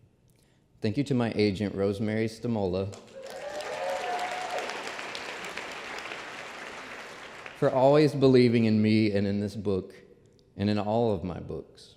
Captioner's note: applause